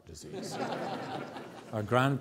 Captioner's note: audience laughs